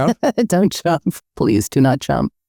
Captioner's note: laughing